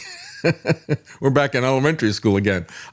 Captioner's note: laughs